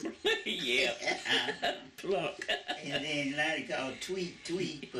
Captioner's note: laughter